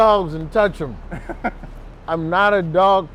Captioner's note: laughs